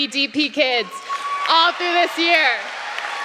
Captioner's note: applause